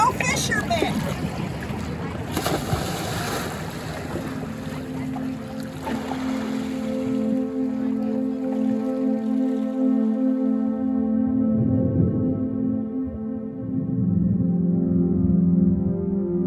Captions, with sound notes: No fishermen. [water splashes] [gentle music]